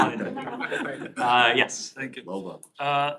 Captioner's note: laughter